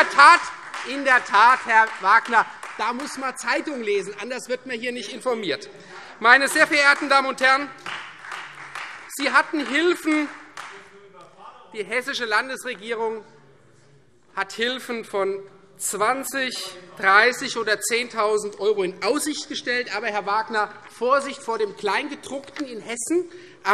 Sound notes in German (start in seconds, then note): 6.4 Vereinzelter Beifall Freie Demokraten